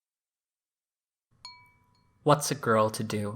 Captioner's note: chime noise